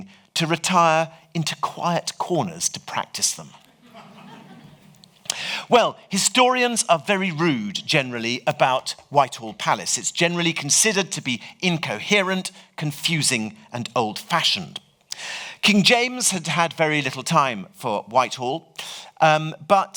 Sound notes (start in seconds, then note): 3.7 audience laughs